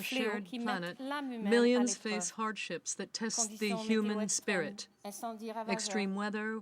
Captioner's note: speaking french